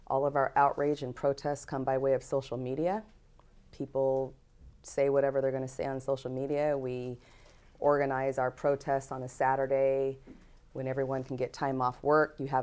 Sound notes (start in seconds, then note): none